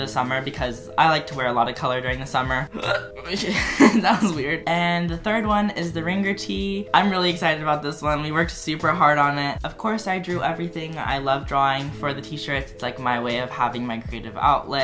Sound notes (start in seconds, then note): 2.8 hiccup